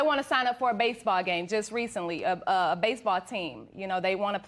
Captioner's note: none